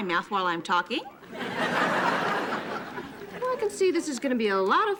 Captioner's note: audience laughing